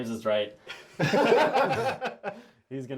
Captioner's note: all laugh